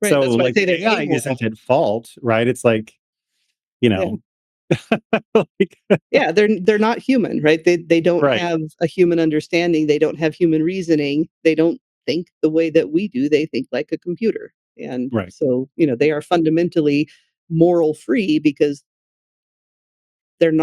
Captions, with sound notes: So like the AI isn't at fault, right? It's like, you know. (Laughing) Yeah, they're not human, right? They don't have a human understanding. They don't have human reasoning. They don't think the way that we do. They think like a computer. And so, you know, they are fundamentally moral free because they're